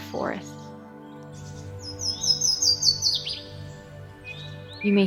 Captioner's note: birds chirping